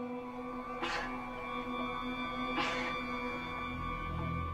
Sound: whimpering noise

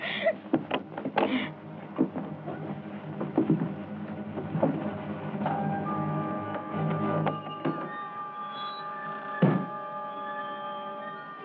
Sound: door rattles

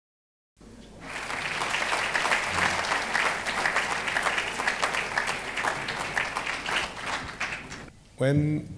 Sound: applause

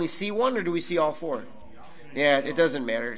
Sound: overlapping chattering

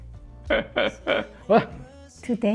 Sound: laughs

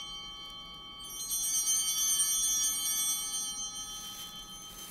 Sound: bell ringing

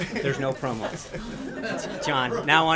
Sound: laughter

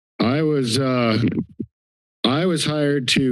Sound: mic thumps

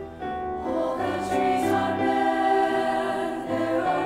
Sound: high voices

